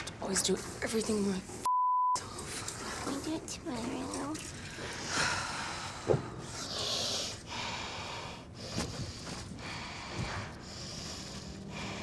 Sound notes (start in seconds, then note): 5.9 sighing